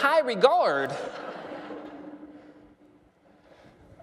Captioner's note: laughter